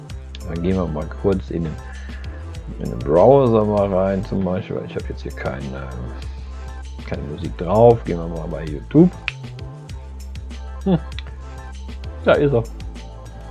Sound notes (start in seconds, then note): 9.2 flick